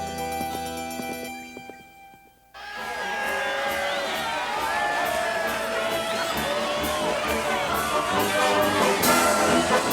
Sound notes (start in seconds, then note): 2.5 townsfolk cheer; 3.0 cheerful marching band music